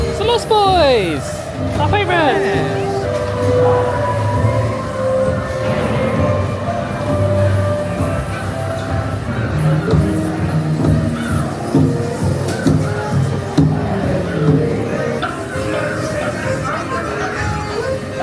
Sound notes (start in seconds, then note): 5.7 cannon blasts; 9.3 whimsical music; 15.5 jaunty music